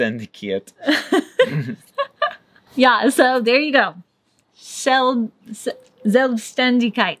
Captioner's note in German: Gelächter